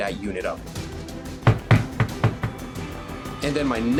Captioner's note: knocking